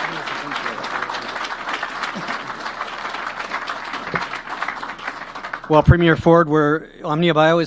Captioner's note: applause